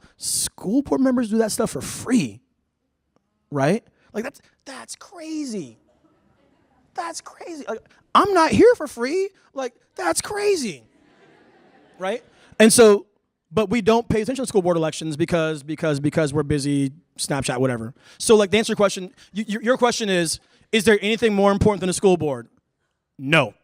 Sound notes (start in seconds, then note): 10.8 laughter